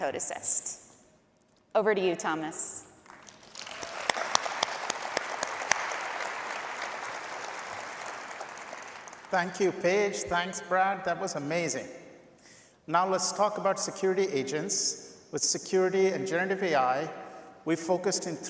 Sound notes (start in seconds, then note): 9.3 applause